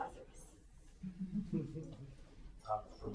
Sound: laughter

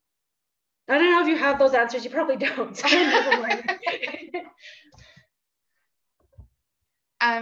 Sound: laughter

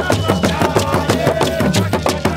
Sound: crowd; drums Beat

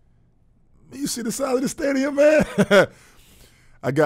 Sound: laughing

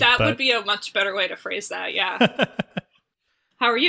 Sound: laughs

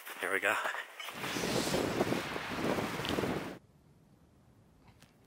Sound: wind blowing

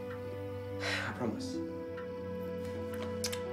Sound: sighs

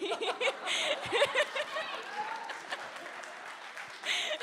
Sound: audience laughs

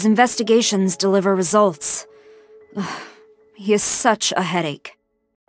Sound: sigh

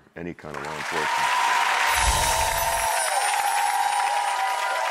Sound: cheering and clapping; bells chiming; audience cheering and clapping

